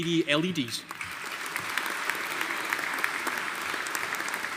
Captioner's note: audience applauding